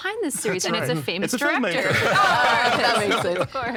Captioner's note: all laughing